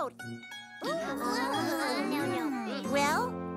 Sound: pretend enthusiasm

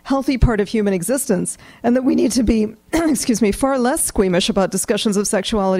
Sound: coughs

